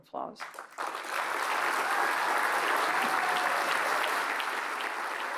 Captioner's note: applause